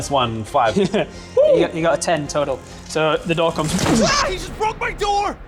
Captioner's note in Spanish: boosh